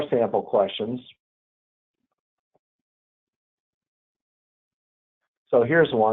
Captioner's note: silence